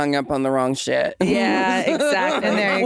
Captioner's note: Jinkx laughing